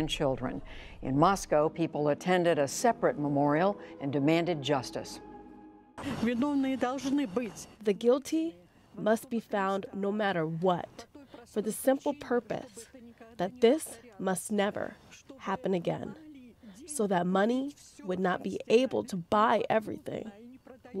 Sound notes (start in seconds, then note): 6.0 through translator